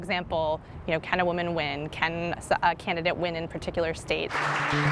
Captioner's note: applause